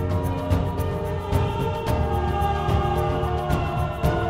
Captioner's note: vocalisation